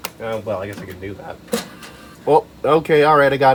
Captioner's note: CD eject noises